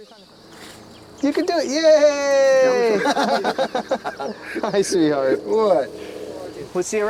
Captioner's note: laughter